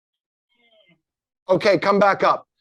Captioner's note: moaning